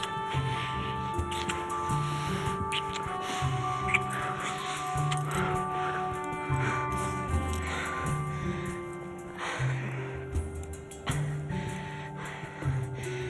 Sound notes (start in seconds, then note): 7.1 Madeleine breathing heavily